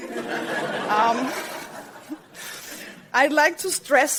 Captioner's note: audience laughs